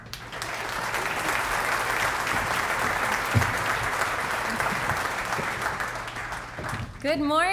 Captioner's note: applause